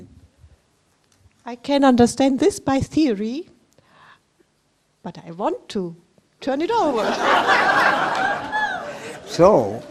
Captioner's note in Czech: smích